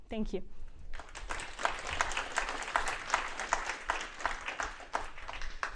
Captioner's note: applause